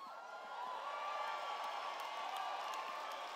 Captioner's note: cheers